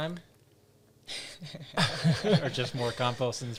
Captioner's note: all laugh